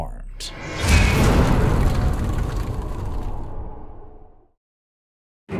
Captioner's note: impact